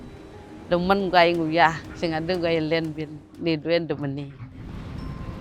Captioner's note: speaking foreign language